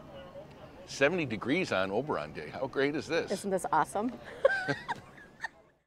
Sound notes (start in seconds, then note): 4.3 laughing